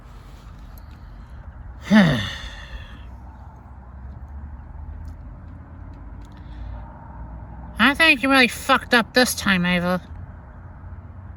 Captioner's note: sighs